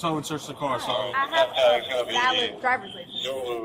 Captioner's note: radio chatter